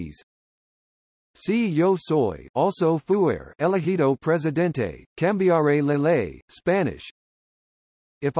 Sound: Spanish

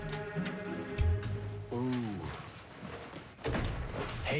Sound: keys jangle

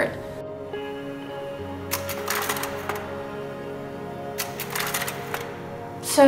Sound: projection slide sounds

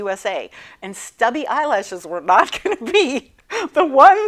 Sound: laughing

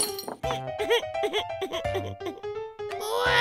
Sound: crashes; cries

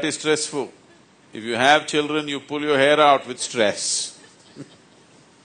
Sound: laughs

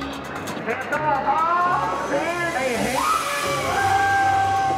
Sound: cheering

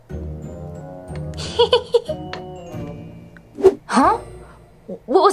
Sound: bat giggles

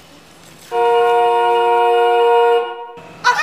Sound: car horn honking

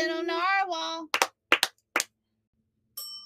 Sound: clap, clap, clap; bell dings

